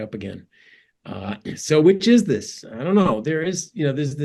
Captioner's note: cough